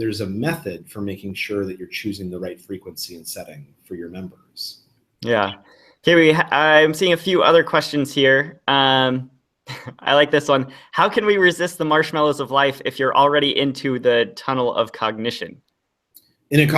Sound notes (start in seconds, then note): 9.7 laughs